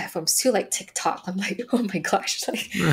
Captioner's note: chuckling